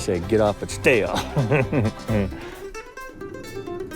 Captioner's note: chuckling